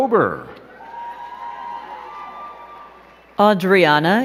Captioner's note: crowd cheering and clapping